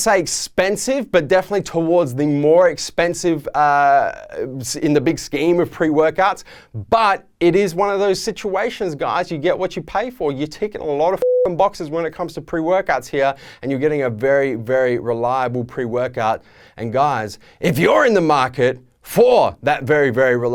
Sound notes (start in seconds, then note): 11.2 beeping